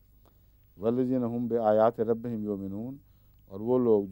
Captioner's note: Arabic